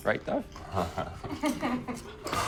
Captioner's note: chuckling